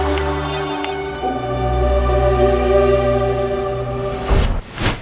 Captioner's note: gentle music; bell dings